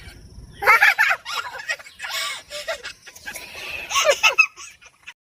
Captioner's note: giggling